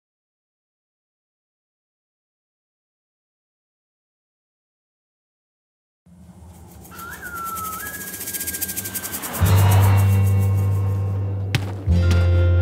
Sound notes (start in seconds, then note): 9.1 tire screeches; 11.4 footsteps